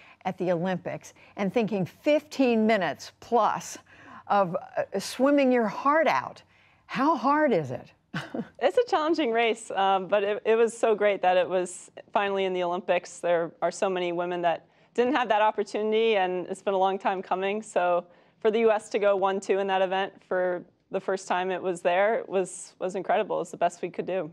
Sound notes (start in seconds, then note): 8.1 laughter